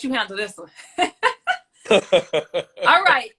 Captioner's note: laughs